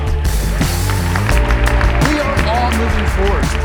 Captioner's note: crowd applause